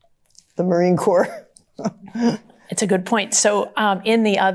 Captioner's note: chuckles